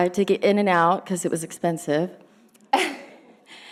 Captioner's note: laughing